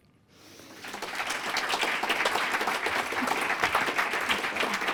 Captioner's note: applause